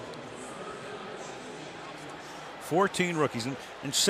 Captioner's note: pa announcement